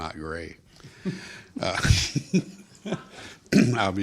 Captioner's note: group laughter